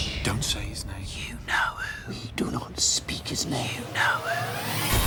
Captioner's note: whispering